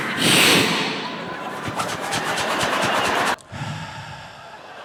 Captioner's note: friction; heavy sigh